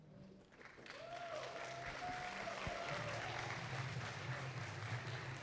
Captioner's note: audience applauding